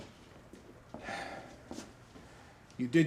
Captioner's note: sighs